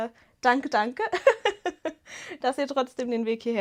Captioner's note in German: Gelächter